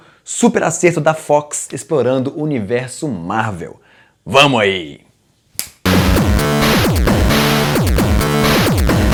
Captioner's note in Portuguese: snap!